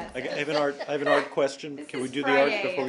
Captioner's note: laughter